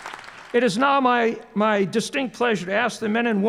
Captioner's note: applause